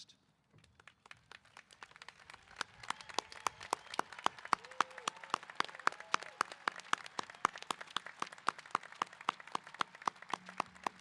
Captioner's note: applause & Cheers